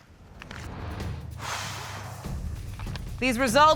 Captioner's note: exhales deeply